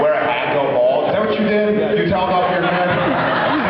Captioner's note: laughs; laughs